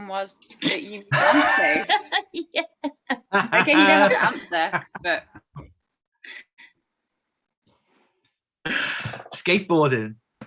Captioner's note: laughing